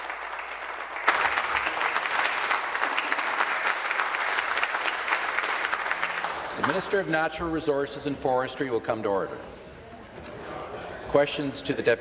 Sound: applause

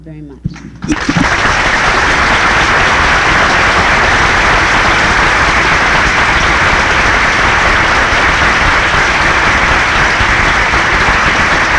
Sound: applause

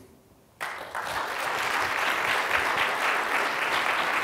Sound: applause

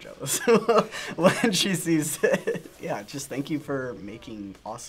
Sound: laughs

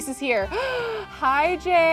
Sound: gasps

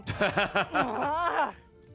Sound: laughs

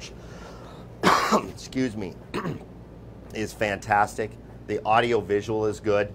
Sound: coughing

